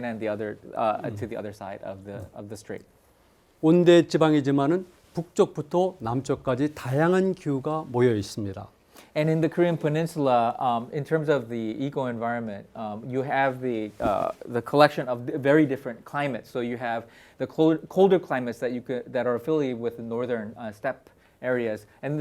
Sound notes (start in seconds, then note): 3.8 speaking in Korean